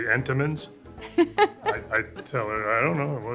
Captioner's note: Lisa laughs